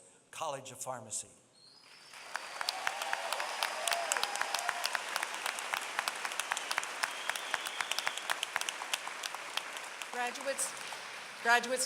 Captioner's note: applause